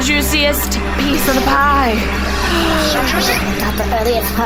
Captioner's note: Dar gasps; whispering